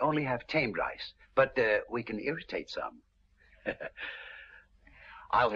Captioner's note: laughs